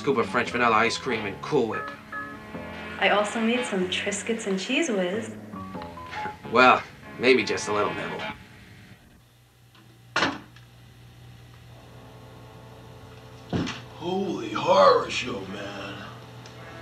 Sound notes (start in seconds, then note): 10.2 door opening